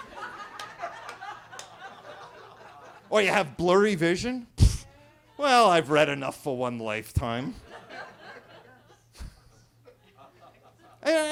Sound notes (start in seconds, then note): 0.0 attendees laughing; 4.7 scoffs; 7.6 attendees laughing